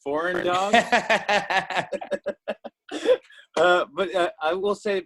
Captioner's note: laughs